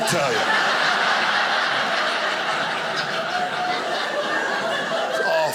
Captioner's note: audience laughing